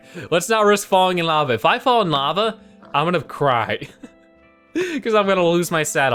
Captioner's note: laughs